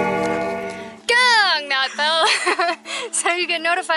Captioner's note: laughter